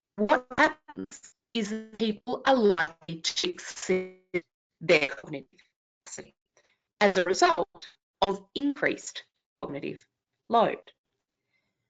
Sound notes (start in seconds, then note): 4.4 audio cuts out